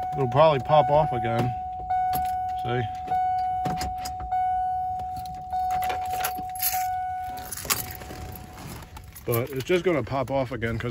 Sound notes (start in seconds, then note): 0.0 car starter beeping; 1.7 car starter beeping